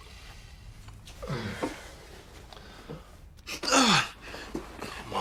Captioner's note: Fahad grunting; Fahad groaning